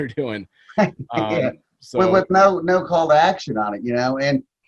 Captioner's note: laughs